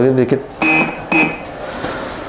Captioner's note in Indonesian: suara mesin printer